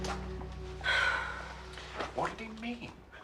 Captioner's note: Menghela napas